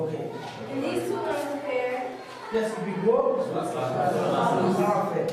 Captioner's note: speaks softly